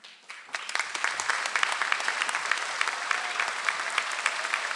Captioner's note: audience applauds